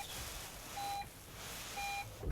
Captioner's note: car beeping